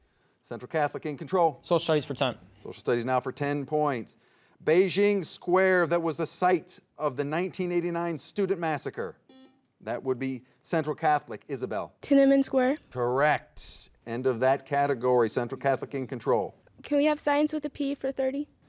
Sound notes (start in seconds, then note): 9.1 soft beeping